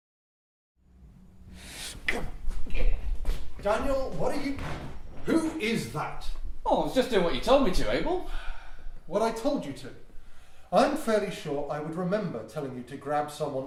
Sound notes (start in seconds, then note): 1.7 grunts